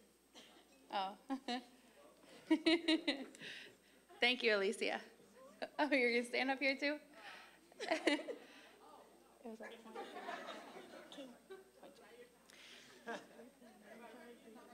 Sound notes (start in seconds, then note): 2.4 giggling; 9.9 audience laughing